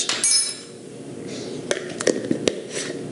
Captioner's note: sniffing